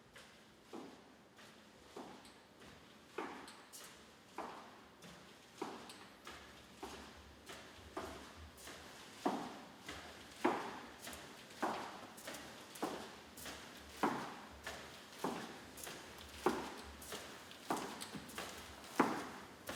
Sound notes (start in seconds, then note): 8.0 footsteps continue